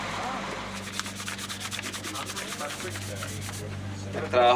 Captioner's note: paper rustling